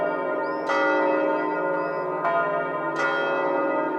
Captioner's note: bird chirping